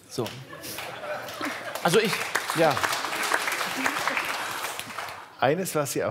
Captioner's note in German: Applaus